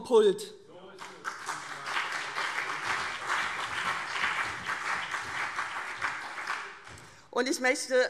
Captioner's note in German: Beifall CDU und BÜNDNIS 90/DIE GRÜNEN